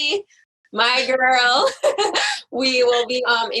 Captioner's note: laughs